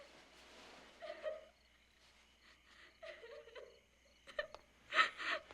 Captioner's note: crying